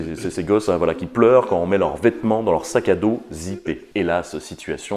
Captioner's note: crying while putting on their clothes in their zipped backpack